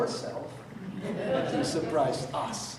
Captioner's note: audience laughing